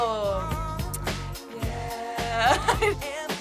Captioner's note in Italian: ridacchiando